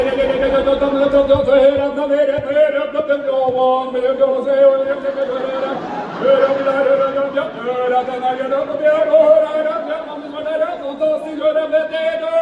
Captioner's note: auctioneer speak